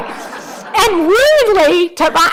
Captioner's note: audience laughing